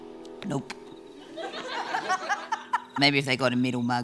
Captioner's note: laughter